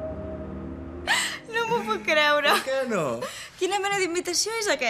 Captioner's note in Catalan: rient